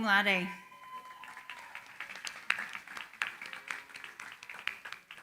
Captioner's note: applause